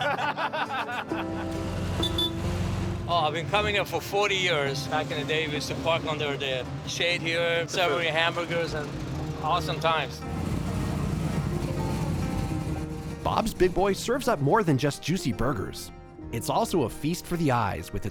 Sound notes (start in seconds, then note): 0.0 laughter; 2.2 horn honks; 10.4 engine rumbling